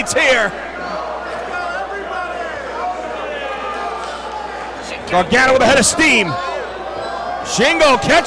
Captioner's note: applause